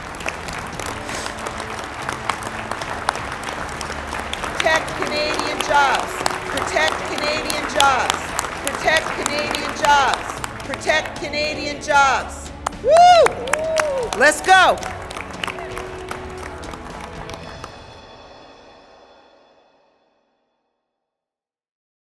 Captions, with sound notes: [applause] [chanting] Protect Canadian jobs! Let's go!